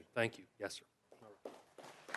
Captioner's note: applause